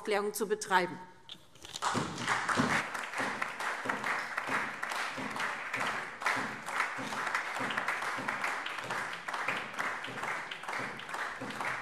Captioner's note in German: Beifall SPD, Freie Demokraten und DIE LINKE